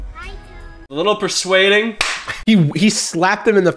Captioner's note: slap!